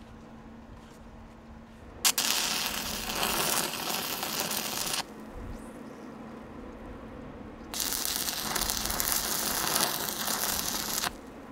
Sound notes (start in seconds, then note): 2.0 welder sputtering